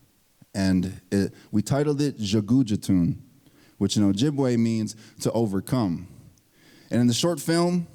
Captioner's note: speaking Ojibwe